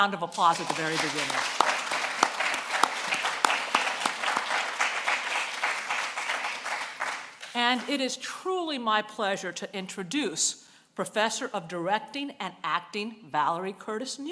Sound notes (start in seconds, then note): 5.5 applause